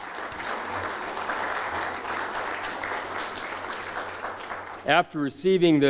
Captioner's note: applause